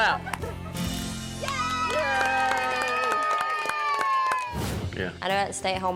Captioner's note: everyone cheers, claps